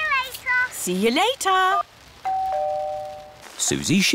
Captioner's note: doorbell rings